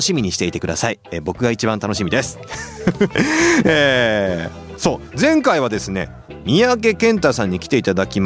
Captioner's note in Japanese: 笑い